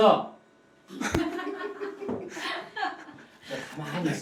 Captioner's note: heh